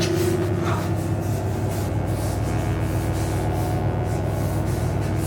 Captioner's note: electric buzzing